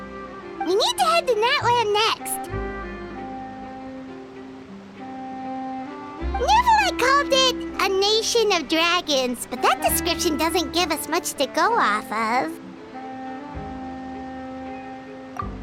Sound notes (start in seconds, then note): none